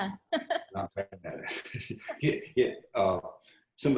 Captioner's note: laughs